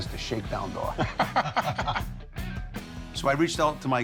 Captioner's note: laughter